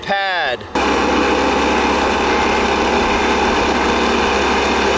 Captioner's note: motor running